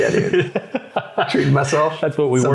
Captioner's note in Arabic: يضحك